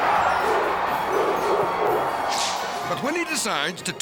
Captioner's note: crowd cheering